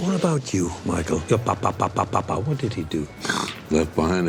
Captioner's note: snort